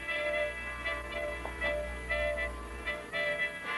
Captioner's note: knocking